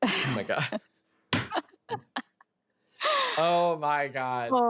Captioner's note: chuckling